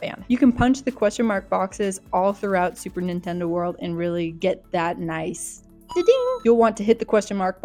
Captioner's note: da-ding